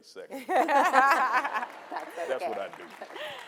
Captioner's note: audience and panelists laughing